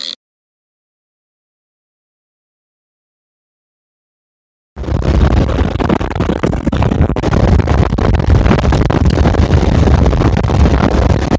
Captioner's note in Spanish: Silencio; Sonido de mucho viento y sonido de moto